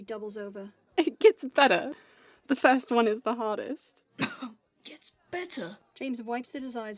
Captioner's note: James continues coughing